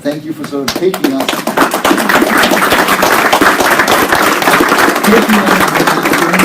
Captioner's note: appalause